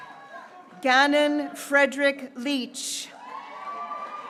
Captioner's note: graduates cheering